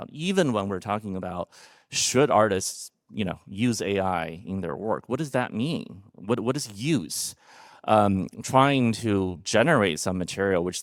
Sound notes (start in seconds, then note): none